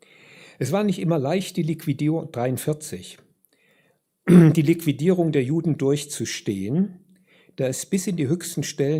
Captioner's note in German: räuspern